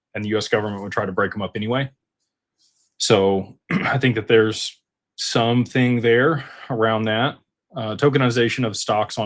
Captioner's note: clears throat